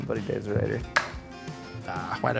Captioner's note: knife thudding